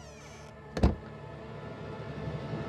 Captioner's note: Door closes